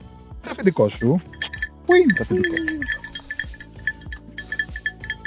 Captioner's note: bell sounds